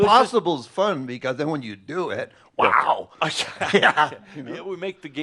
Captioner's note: he chuckles